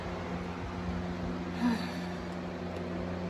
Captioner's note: Caprice sighs